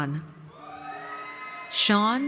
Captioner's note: audience cheers